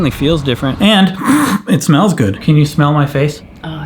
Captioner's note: snorts